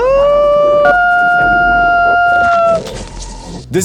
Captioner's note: screaming